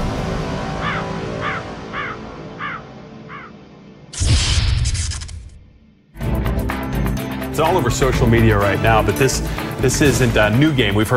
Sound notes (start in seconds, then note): 1.8 birds chirping; 4.5 logo whirring; 6.2 upbeat music